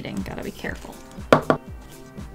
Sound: tap, tap

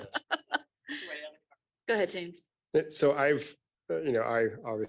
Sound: laughs

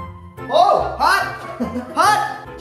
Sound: laughing

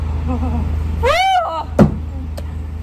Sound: screaming

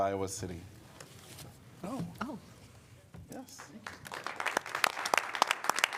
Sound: applause

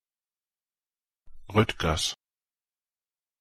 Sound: fast Pronunciation

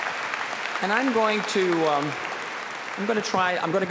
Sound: applause

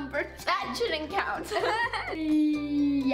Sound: laughing

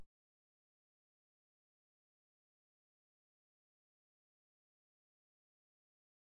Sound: silence

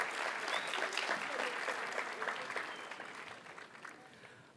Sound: audience cheers and applauds

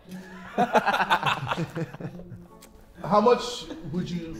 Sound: Sidemen laughing

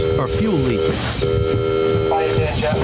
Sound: bell buzzing

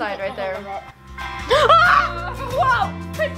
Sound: cries out

